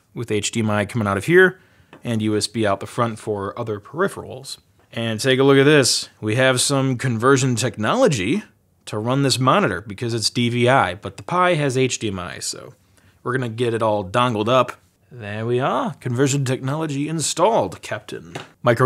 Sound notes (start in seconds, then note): none